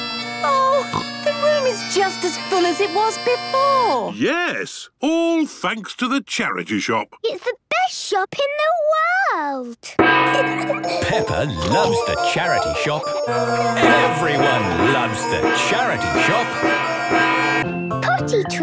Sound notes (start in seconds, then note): 0.0 dissonant music; 10.2 kids giggling; 16.2 dissonant music